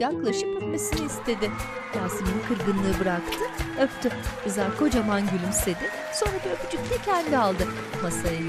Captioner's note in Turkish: Müzik - Hareketli; Fonda çığlık ve alkış sesleri; Müzik - Hareketli